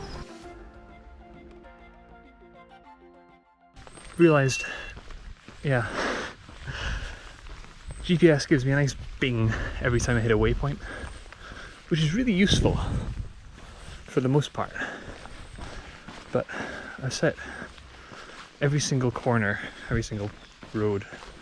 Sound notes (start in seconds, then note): 3.8 GARMIN chimes